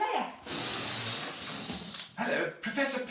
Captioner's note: balloon deflates